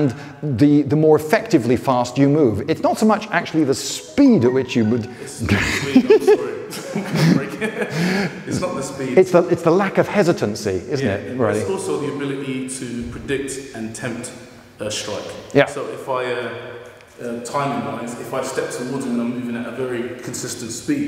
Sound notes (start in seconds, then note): 4.0 phone rings; 5.4 laughter